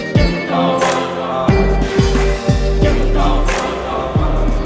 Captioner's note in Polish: Aplauz